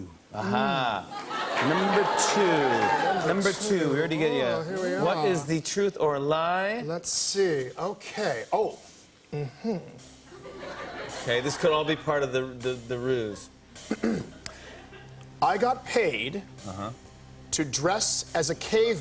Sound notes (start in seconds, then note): 9.3 clears throat